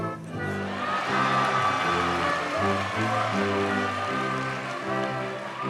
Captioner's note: audience cheers and applauds